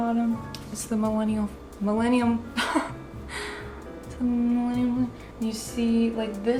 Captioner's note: laughs